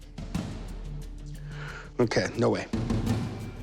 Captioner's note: exhales